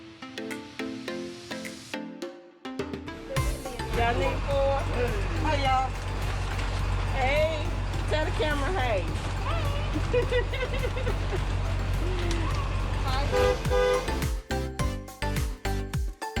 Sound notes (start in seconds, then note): 9.5 laughs; 13.1 honks horn